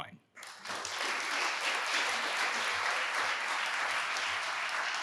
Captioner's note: audience applauding